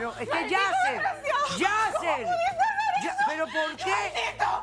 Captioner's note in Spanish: Sollozos